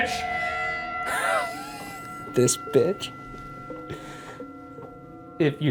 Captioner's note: laughs